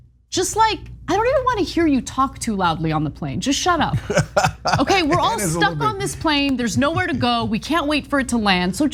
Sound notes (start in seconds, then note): 3.9 laugh